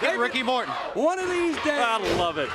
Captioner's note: crowd cheering